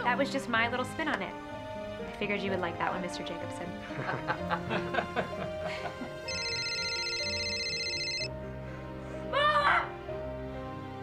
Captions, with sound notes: - That was just my little spin on it. I figured you would like that one Mr. Jacobson. (loud laughter) (loud ringing) - Mom!